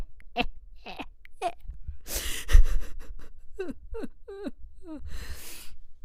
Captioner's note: more crying